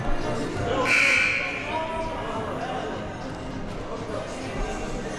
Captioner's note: buzzer sounding